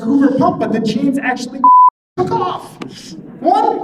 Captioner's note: beeping